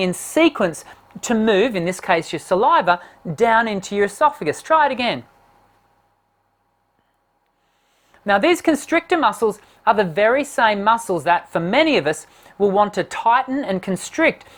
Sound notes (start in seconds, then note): none